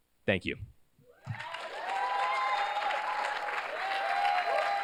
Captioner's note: cheers, applause